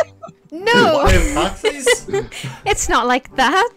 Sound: laughter

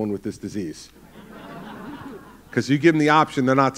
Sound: laughter

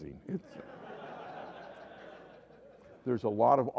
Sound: laughter

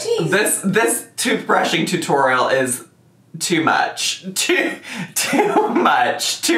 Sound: laughing

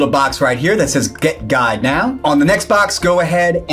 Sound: cursor clicks

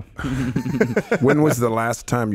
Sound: laughing

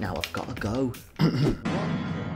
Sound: cough cough

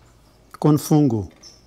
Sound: speaking in Portuguese

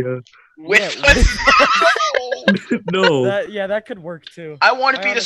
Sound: sighs

